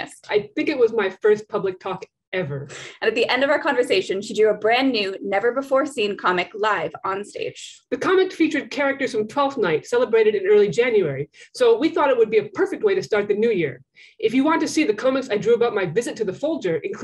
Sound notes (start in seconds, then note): none